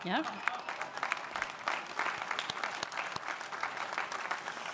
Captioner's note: audience applauding